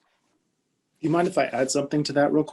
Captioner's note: deeply Voice